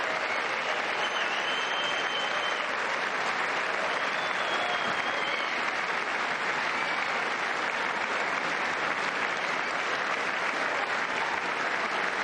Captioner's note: cheers and applause